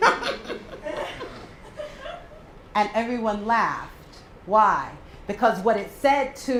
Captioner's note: laugh